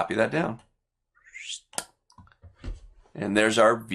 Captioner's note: whistles